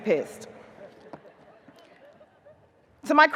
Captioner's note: audience chuckles